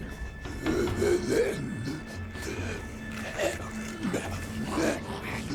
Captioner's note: grumbling